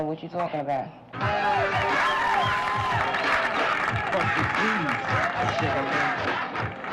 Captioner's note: cheering, music playing